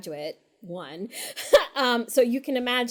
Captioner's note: laughs